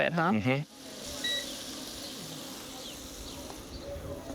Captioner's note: stove beeping